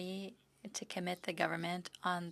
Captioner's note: speaking French